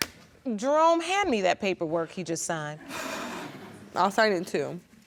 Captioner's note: audience laughing